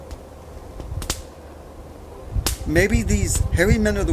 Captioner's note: firewood snapping